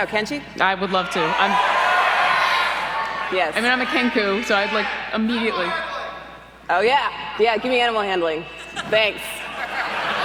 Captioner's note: audience cheers affirmatively